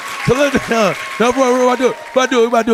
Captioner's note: audience clapping